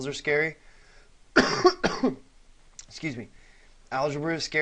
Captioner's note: cough